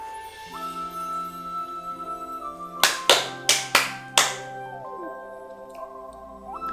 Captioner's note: K-cheering applause